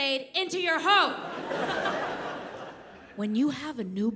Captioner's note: audience laughs